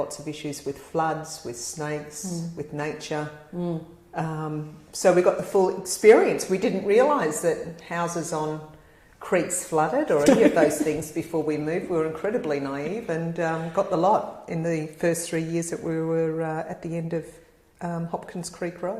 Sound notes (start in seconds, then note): 10.2 laugh